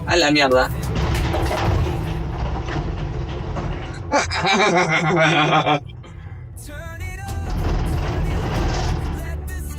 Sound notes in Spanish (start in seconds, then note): 4.1 risas de panico